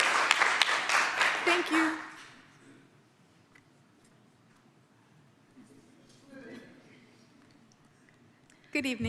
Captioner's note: applause